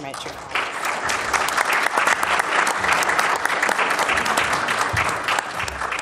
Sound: applause

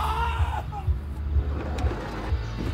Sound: crying

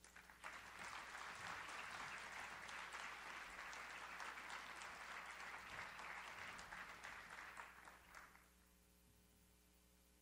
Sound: audience applauds

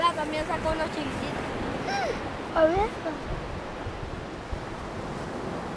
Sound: speaking foreign language

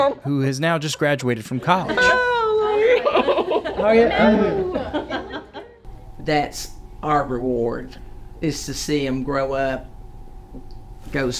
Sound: laughter

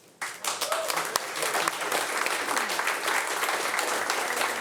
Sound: audience applauding

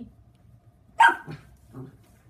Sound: dog barks

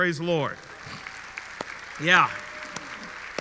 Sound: audience clapping

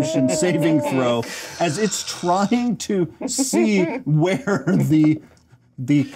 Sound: laughs

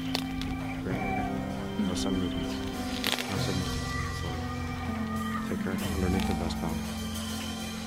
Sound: soft talking

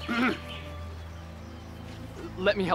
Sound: clearing throat

